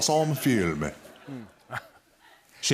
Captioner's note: laughter